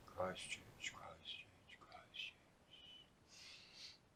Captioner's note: sighs